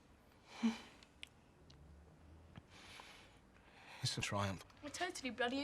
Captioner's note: Loz sighs